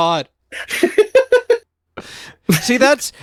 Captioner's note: laughing